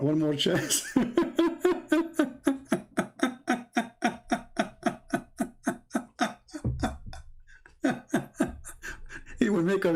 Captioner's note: Ketawa